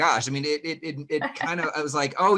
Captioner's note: laughing